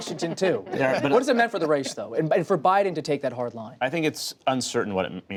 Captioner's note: laughter